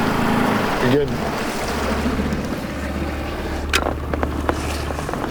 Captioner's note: water splashing